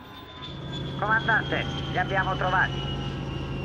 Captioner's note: spacecraft whirring